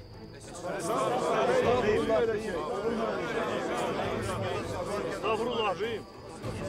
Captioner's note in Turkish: Hep bir ağızdan